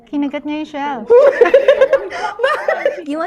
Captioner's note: laughs